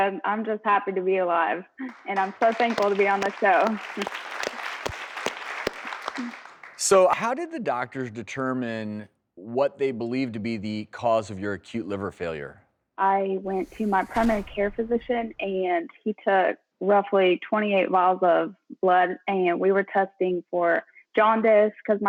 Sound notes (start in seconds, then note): 3.9 audience clapping